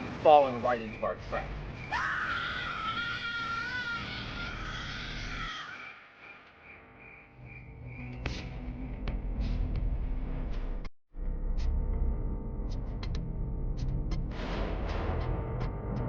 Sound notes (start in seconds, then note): 1.8 screams; 7.6 upbeat music